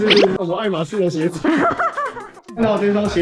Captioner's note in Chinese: 的恥笑